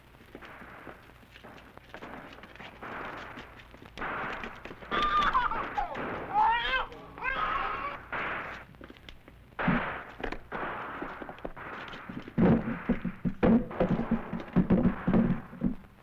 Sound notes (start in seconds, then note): 0.3 distant gunfire; 4.8 cries